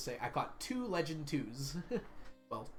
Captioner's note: laughs